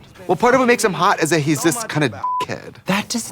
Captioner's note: beeping